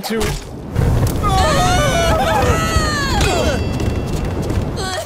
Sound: guys screaming

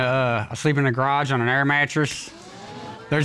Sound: audience gasping

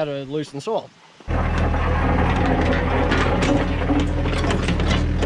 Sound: excavator loosening soil

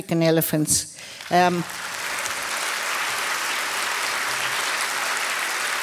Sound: applause

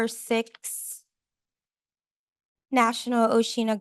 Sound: pause

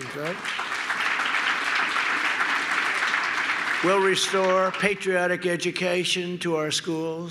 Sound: applause

